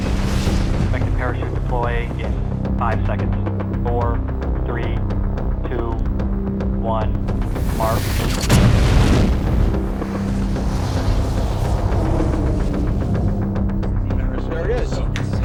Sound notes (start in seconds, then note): 0.0 rocket roaring; 7.4 loud bang; 11.2 wind whooshing